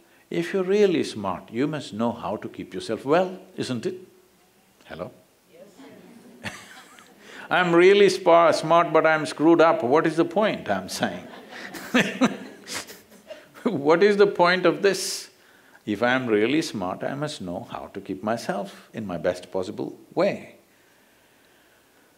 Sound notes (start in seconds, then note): 6.4 Sadhguru laughs; 10.5 laughter